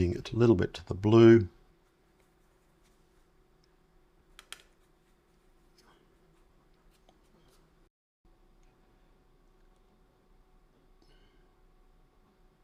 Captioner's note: silence